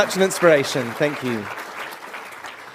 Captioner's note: applause